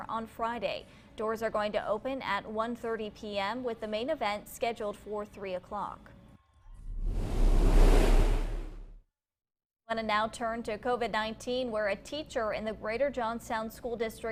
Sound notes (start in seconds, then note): 6.7 whoosh